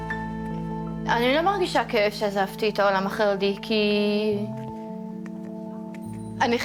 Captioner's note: speaking in foreign language